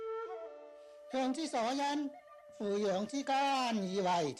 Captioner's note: speaking in Chinese